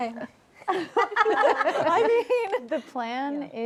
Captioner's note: laughter